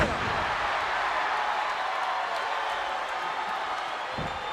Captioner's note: crowd cheering